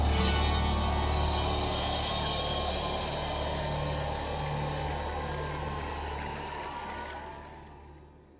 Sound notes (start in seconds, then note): 1.8 audience cheering